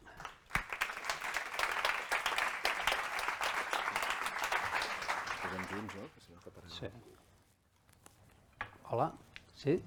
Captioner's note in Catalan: Aplaudiment